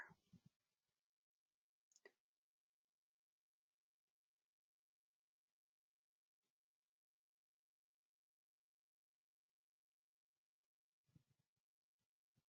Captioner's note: 20 seconds pause